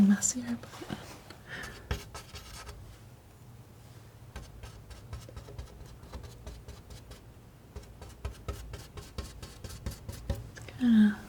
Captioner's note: tapping